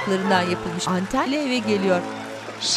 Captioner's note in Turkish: Fonda Alkış sesleri